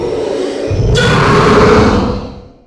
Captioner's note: angry Screaming